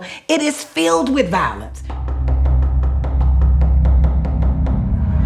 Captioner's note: woman knocking